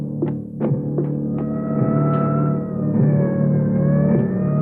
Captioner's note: siren blaring